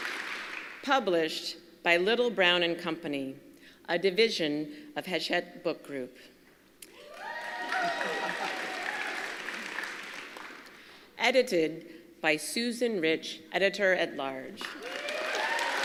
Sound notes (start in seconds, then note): 0.0 applause; 7.0 applause